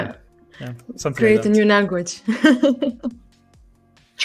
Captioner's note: laughs